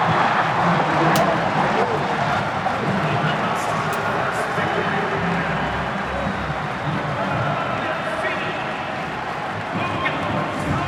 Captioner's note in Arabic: تشجيع